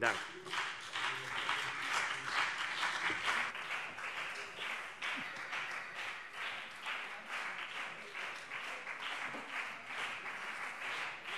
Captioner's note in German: Anhaltender Beifall CDU und BÜNDNIS 90/DIE GRÜNEN